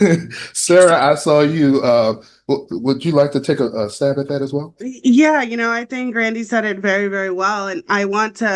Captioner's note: laughter